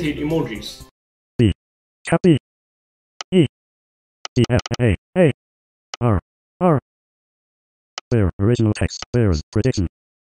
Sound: voiceover speaking

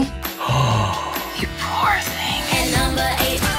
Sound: gasps

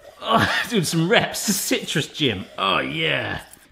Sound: grunts

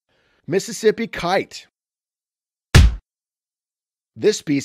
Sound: stamped sound

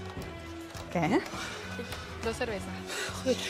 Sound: gasps

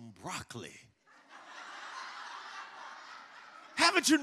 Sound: congregation laughs

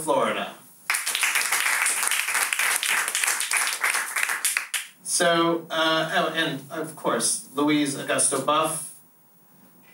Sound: applause

